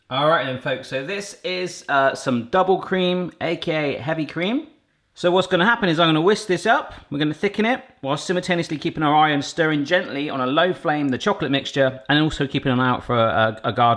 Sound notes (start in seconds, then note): none